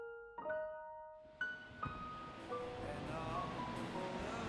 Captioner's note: cars faintly whizzing; upbeat music